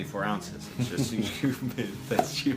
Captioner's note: both laugh